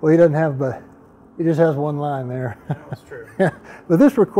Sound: laugh

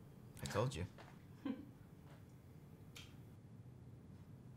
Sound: chuckle

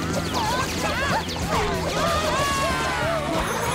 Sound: screaming

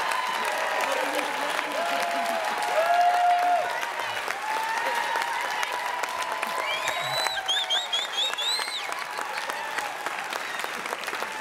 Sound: audience Applauds

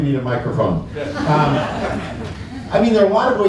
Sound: laughter

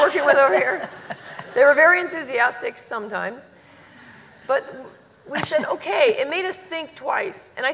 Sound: laughter

